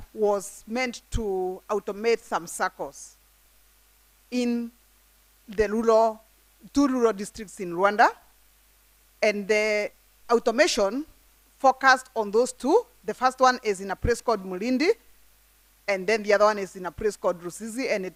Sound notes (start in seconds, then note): none